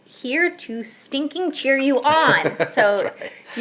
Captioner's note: laughing